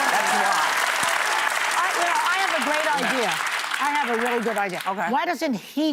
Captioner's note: applause